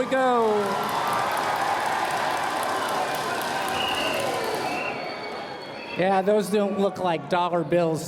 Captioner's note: cheers and applause